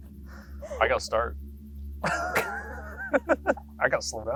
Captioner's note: both laughing